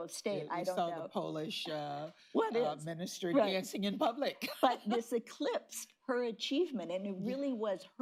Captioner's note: laughs